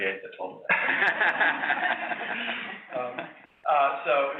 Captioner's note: laughs